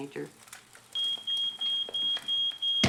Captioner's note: smoke detector beeping